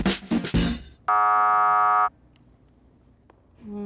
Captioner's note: buzzer sound